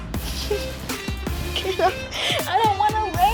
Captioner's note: laughs